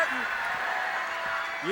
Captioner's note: crowd cheering